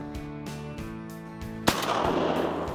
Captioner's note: gun shot